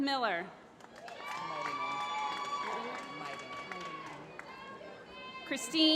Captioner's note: applause